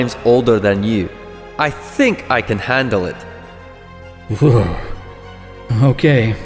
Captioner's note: snort of half amusement and half horror